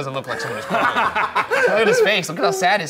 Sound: laughing

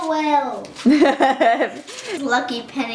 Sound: laughter

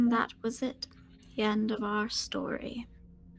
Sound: none

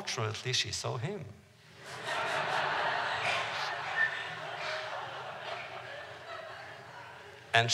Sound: laughter

